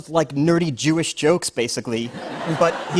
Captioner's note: laughter